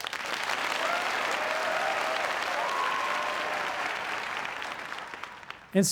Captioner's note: applause